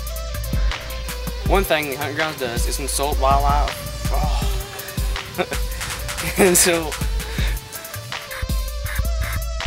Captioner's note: haha